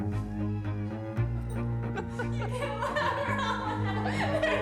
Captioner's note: laughter